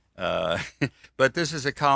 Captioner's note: laughs